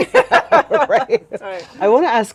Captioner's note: both laugh